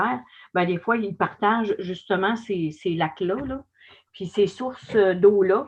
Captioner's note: foreign language